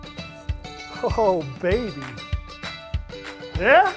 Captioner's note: excited